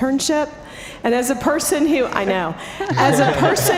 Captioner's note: laughter